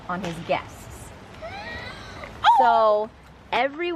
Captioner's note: gasps